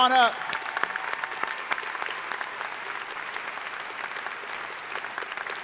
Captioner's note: crowd applauding